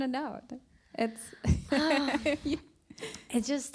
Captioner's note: sighs